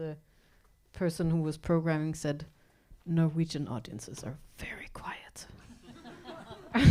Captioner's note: laughs